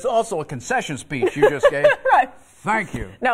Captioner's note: laughter